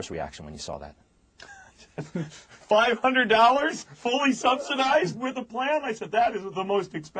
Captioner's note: laughs